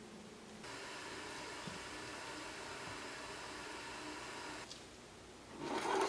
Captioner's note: sound of tea kettle steaming; wood scraping